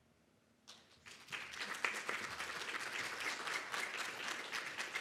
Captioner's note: audience applauds